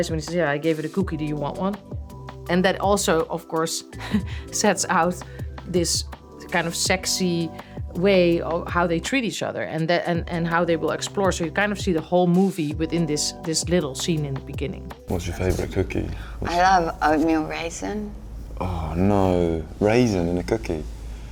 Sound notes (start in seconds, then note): 3.9 laughing